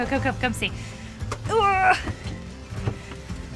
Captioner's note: grunts